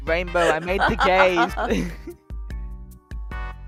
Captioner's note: laughing